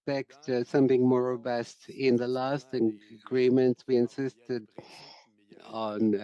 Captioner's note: speaking French